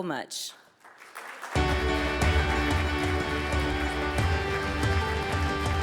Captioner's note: audience applauds; bright music